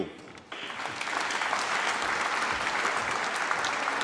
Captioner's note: applause